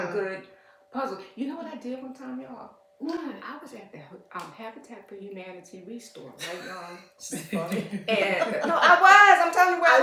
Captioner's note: laughter